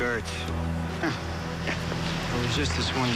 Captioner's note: chuckles